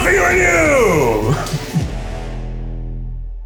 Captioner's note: laughter